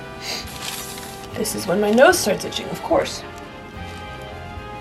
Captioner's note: sniffs